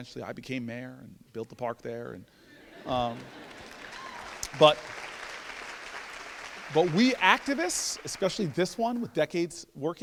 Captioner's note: laughter. Applause